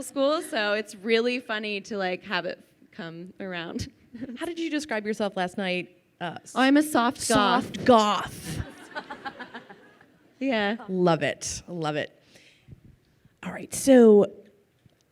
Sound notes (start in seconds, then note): 8.4 laughing